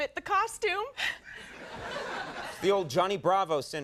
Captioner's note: crowd laughs